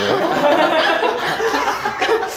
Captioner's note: laughing as she's moving to the side